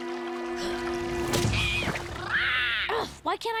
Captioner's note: squawking